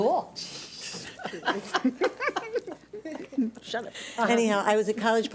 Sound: everyone laughs

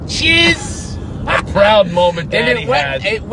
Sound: laughing

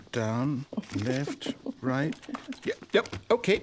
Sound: laughter

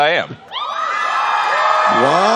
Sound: cheering

